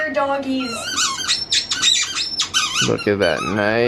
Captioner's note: toy squeaking